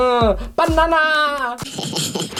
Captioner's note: Minions giggle